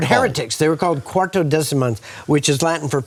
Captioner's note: speaks in foreign language